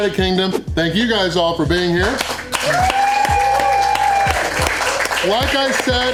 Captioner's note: crowd applause